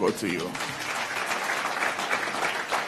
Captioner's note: applause